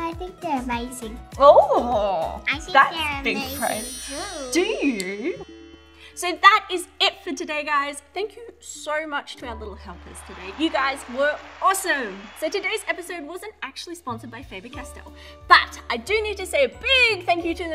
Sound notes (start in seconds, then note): 4.6 chiming